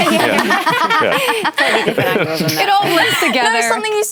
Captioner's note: laughter